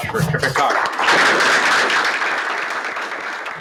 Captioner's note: applause